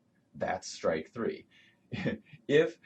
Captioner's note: laughs